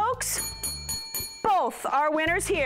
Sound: bell dings

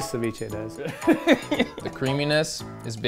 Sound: laughs

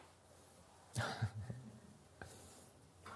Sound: laughter

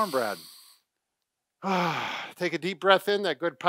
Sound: sighing breath out

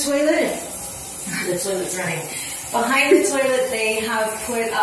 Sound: the toilet's running

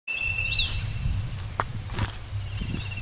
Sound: footsteps

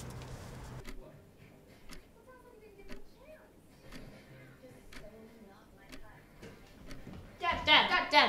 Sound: clock ticking

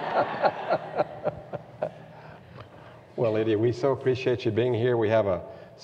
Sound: laughs

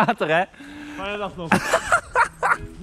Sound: laughing

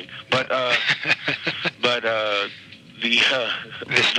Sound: laughing

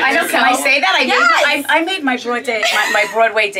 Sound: laughs

